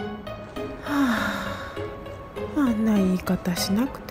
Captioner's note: sigh